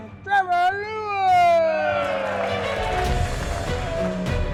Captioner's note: group cheers